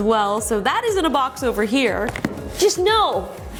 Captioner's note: box thuds